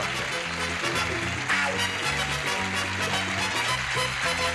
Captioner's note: applause, theme music